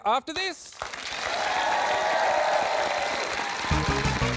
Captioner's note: cheering, applause